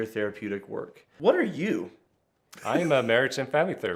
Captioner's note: laughing